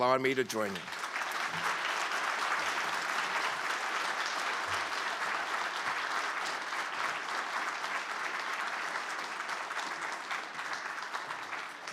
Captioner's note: applause